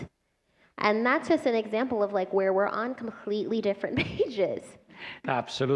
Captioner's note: laughter